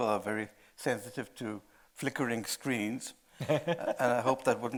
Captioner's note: laughing